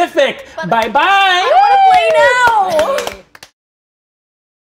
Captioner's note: players applaud